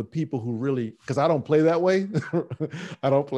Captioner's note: laughing